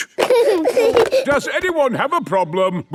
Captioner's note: giggling